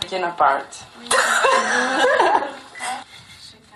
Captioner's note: laughter